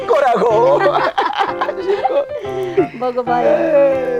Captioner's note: both laughing